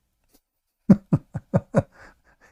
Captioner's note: Ketawa